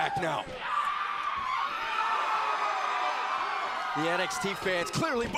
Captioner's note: crowd cheering